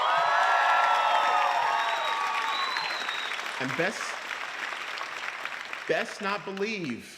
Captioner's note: applause